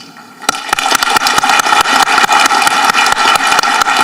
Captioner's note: audience applauding